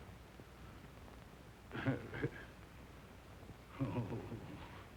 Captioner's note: chuckling